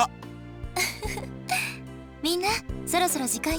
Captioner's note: giggle